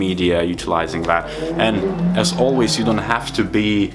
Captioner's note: car engine revving